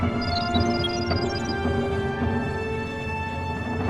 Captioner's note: dramatic music; machine beeps